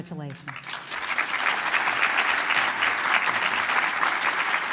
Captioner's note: applause